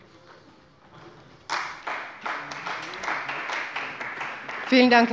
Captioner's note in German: Beifall bei der CDU